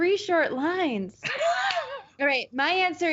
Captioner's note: laughing